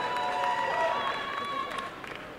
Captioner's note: applause and cheering